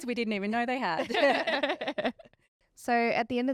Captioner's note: all laughing